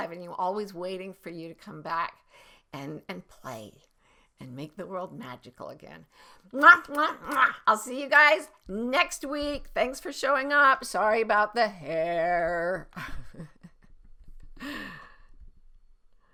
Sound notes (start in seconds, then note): 6.5 makes kissing noises; 13.0 laughs